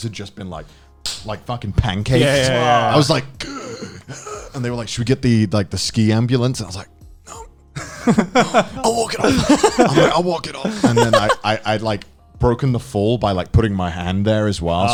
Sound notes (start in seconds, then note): 3.0 inhales deeply; 7.8 laughing